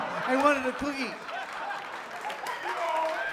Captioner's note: laughter; applause